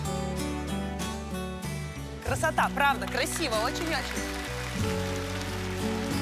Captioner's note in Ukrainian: оплески